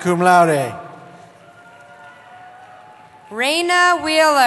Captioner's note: cheering